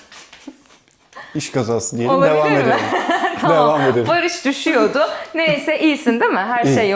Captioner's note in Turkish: kahkaha